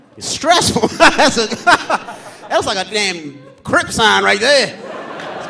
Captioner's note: laughs; audience laughing